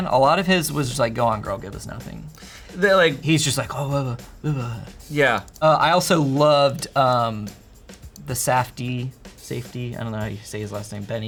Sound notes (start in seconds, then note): 4.3 mutters